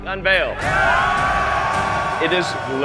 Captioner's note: crowd cheering